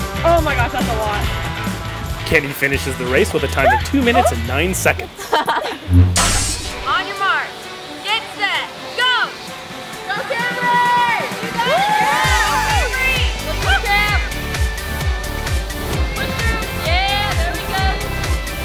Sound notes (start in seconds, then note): 0.0 pop music; 9.4 pop music; 12.7 cheering; 14.5 pop music